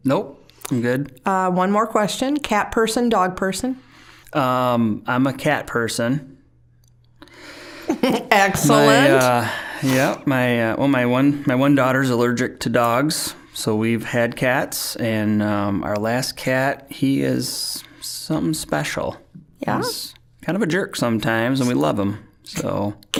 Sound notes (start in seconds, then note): 7.8 chuckling